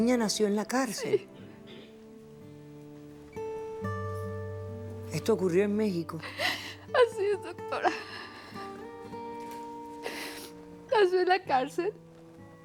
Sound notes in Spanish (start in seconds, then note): 6.2 Sollozos